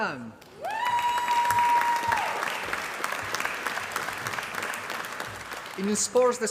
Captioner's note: applause